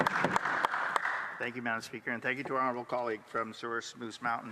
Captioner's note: some Applause